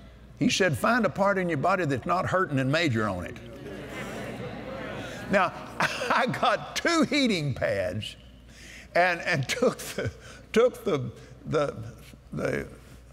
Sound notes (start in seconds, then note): 3.5 audience Agrees